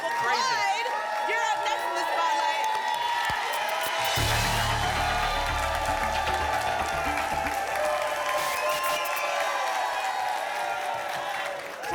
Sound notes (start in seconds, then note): 3.5 static; 6.6 applause and cheering cont; 8.3 static; 9.3 applause and cheering cont